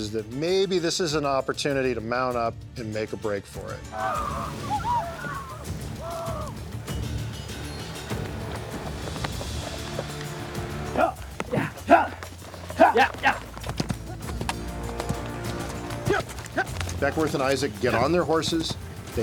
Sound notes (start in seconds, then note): 3.9 war cries